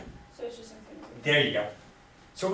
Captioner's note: voiceover